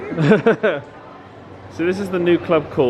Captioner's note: laughing